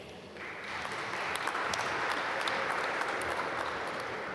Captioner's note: applause